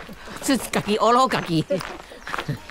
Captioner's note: minnan dialect